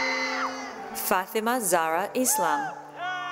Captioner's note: cheering